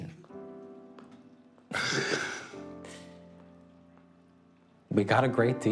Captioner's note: exhaling